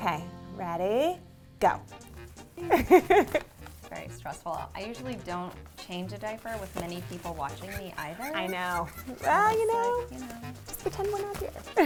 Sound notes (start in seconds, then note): 2.5 upbeat music; 2.6 giggles loudly